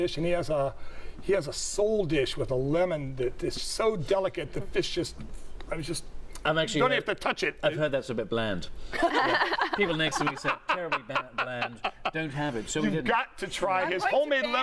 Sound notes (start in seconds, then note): 8.9 laughter